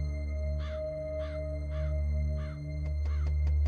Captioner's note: crow caws